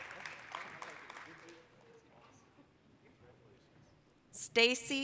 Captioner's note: applause